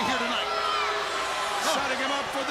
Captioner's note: crowd chatter